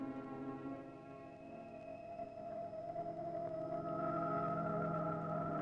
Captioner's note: strange modulating